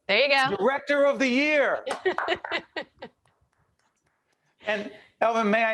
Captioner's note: applause